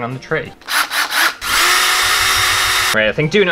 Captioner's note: drill Sounds